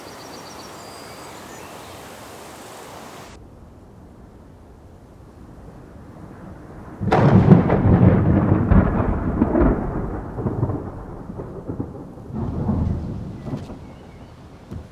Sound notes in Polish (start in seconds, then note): 6.5 głośne grzmoty